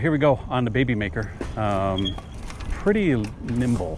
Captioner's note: metal clanging